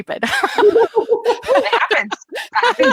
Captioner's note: laughing